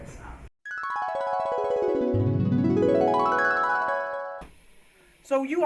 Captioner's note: flashback sound effect plays